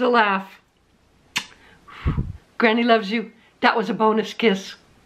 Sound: kissing sound

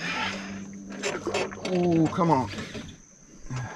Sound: creaking

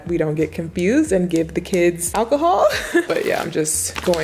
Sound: laughs

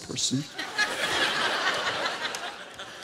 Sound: laughter

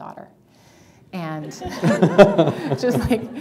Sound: laughter

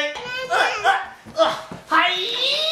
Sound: grunting

